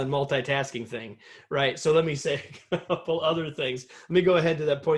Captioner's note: laughter